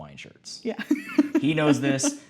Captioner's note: laughing